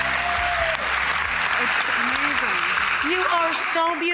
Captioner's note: applause